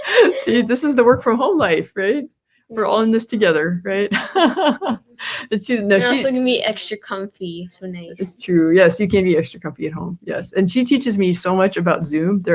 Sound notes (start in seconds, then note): 0.0 both laughing; 4.1 laughs